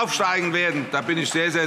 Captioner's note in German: Vereinzelter Beifall und Zurufe